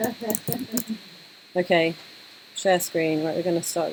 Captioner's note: laughter; laughter